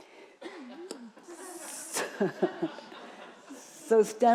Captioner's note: audience chuckling